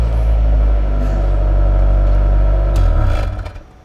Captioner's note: engine being shut off